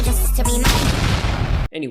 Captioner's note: aggressive atomic explosion